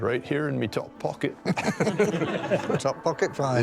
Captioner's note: laughter